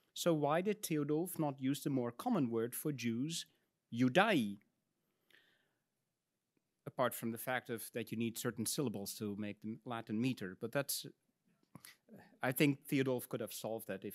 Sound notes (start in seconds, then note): 3.4 speaks in Latin